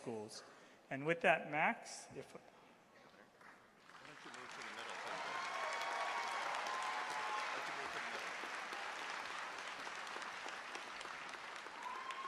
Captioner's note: applause